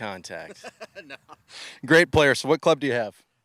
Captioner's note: laughs